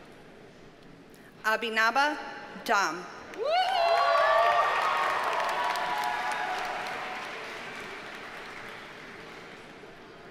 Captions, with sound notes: Abhinaba Dam. (audience cheers and applauds)